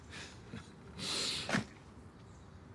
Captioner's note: he inhales